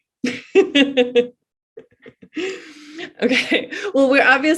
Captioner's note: laughs